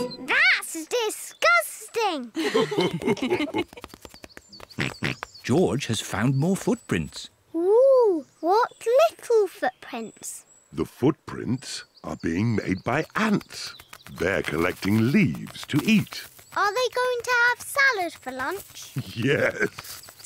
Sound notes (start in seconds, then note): 2.3 mummy and daddy pig laugh; 4.8 oinks; 18.9 laughs